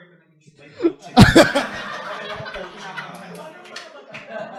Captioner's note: laughter